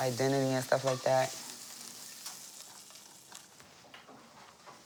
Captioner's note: sizzling